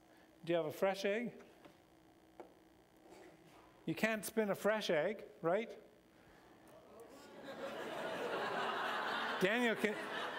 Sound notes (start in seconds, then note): 7.2 laughter